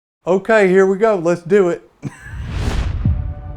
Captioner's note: swoosh